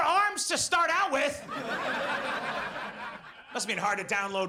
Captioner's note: audience laughs